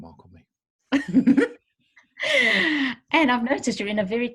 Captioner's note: both laugh